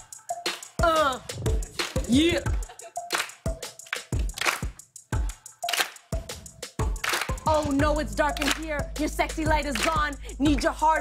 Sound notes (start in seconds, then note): 3.1 clapping